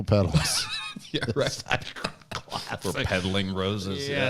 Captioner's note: laughs